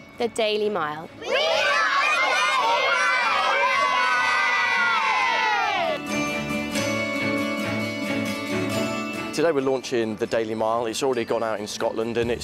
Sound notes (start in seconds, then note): 4.5 cheering; 5.6 bright music